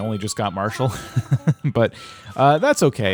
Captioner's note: laughter